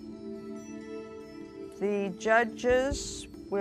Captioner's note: none